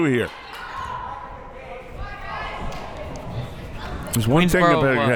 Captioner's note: crowd members shouting